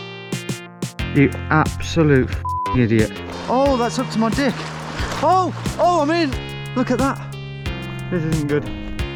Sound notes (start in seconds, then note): 2.4 beep